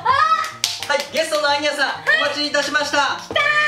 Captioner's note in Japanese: 拍手